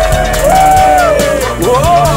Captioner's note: Hooting